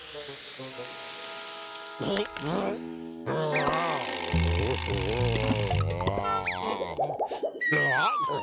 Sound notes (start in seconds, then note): 1.9 gagging; 3.2 groans